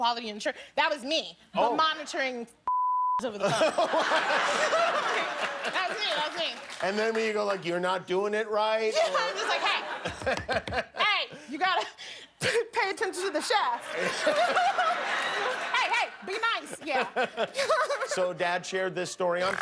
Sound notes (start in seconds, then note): 3.4 laughter